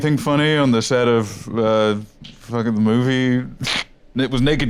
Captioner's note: laughs